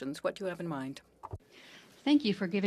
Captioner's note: speaking French